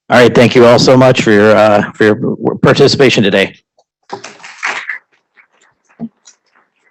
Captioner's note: applause